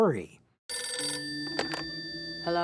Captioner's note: phone ringing